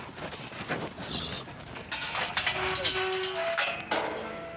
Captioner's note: gate rattling